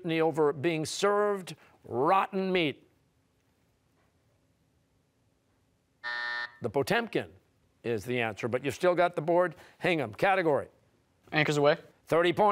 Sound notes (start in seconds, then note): 6.0 buzzer